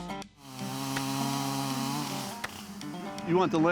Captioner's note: chainsaw buzzing